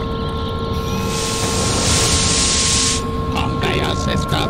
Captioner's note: hiss of gas entering dalek creature container